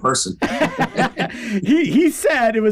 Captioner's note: both laughing